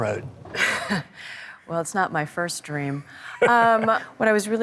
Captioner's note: laughs